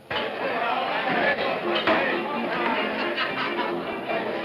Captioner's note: men chattering